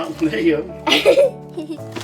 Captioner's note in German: Gelächter